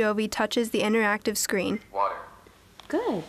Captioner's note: male voice from device